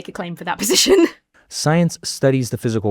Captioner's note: chuckles